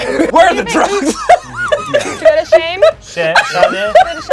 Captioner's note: everyone laughs